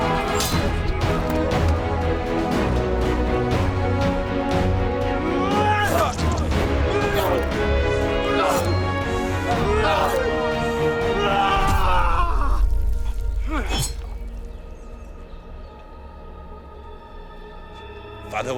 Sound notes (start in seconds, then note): 0.2 swords clanging; 2.5 dramatic music; 6.5 both moaning; 10.2 dramatic music; 12.1 both moaning; 14.9 dramatic music